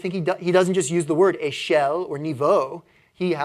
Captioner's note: french